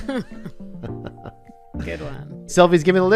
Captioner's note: laughing